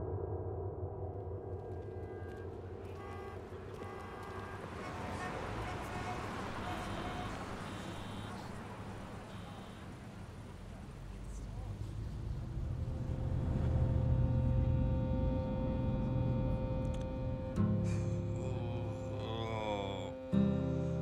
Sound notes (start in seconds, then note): 3.1 traffic sounds